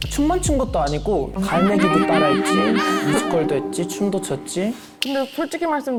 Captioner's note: seagull impression sound